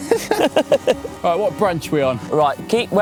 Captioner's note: laughing